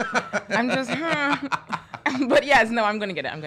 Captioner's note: laughing